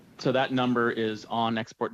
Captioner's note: speaking French